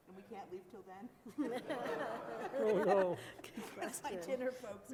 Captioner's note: laughter